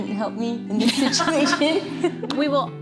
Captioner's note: laughs